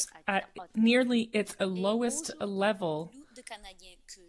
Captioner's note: speaking FRENCH